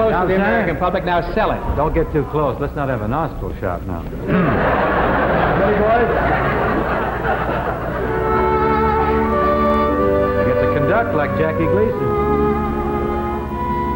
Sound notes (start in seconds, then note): 4.9 audience laughing; 8.4 mellow music